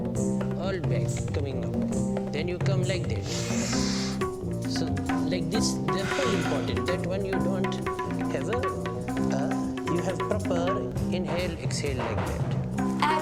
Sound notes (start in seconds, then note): 3.2 exhales Deeply; 3.2 深呼气; 8.2 exhales